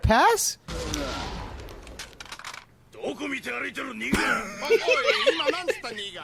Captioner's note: speaking in a foreign language